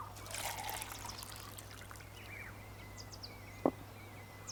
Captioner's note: birds chirping; liquid sloshing; glass thuds